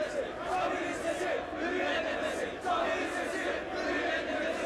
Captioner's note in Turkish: Hep bir ağızdan